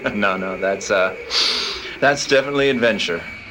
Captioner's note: sniffs